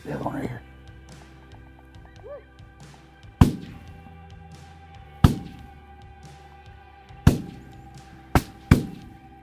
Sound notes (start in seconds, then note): 3.5 gun shots